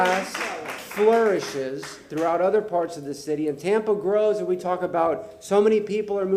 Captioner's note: applause